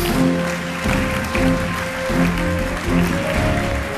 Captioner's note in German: Applaus